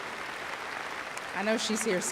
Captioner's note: applause